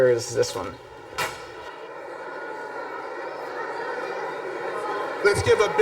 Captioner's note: crowd noise